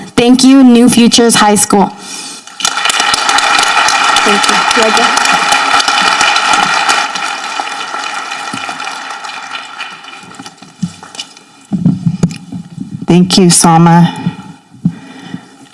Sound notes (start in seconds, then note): 2.8 people applauding